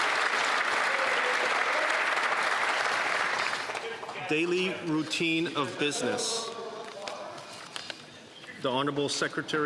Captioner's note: applause